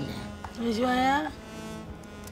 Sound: Amma speaks to her mother in malayalam

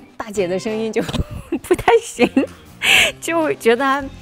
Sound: laughing

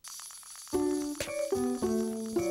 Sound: toy Clicking

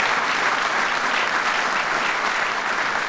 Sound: applause

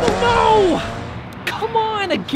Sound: can engine roaring

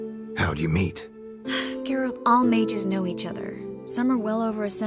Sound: sigh

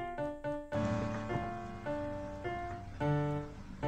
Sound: watching tv noises

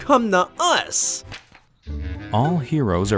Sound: paper rustling

